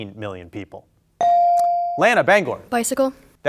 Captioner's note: bell ringing